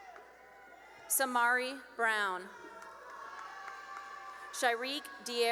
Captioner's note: cheering and applause